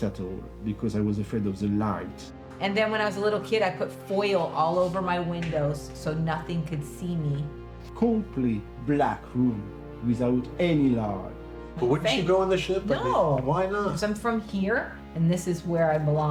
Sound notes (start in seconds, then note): none